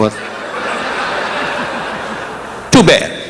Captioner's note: audience applauding